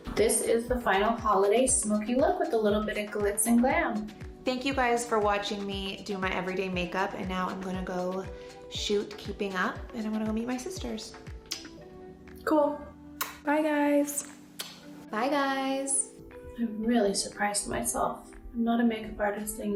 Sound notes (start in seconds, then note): 14.6 lips smacking